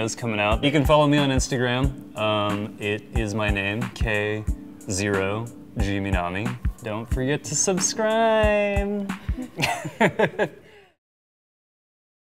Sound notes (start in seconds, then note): 9.2 laughing